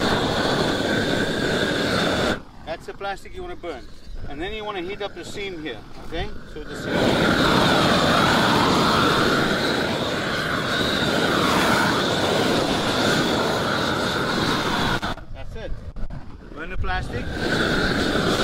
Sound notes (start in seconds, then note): 0.0 air whooshes against plastic; 7.6 air whooshes against seam